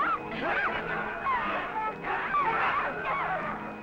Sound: crowd shouting

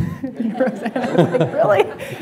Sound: laughter

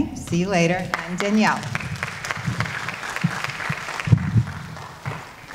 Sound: audience applauding

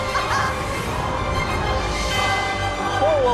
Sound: laughs

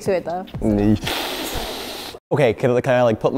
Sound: inhales through clenched teeth

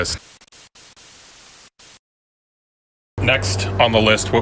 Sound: static

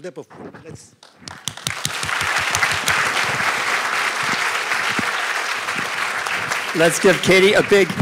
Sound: applause

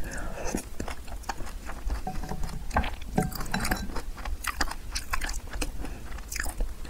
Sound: whisper

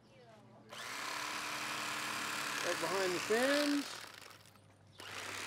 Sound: whirring of electric knife

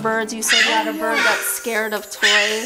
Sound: bird squawking loudly

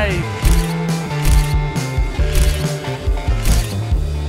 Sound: camera clicking

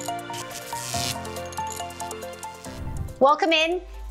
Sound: upbeat music; neon lights buzzing

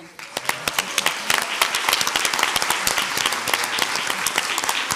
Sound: crowd applauds

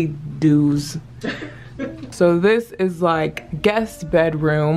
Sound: laughs

